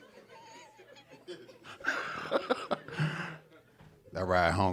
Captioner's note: snickers